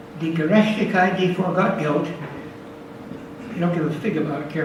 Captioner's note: speaks foreign language